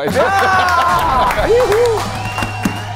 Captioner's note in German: Jubel